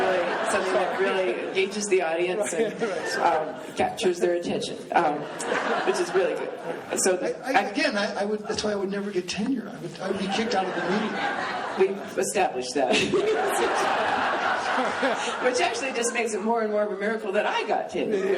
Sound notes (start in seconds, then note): 5.3 laughing; 12.9 laughing